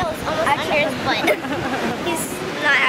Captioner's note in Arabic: يضحك